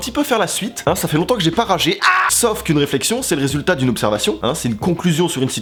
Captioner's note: scream